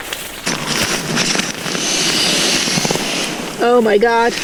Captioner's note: sound of air streaming into the mattress